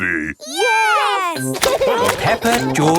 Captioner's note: laughing